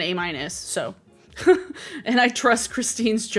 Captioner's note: laughing